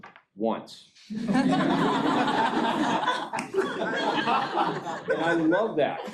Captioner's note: laughing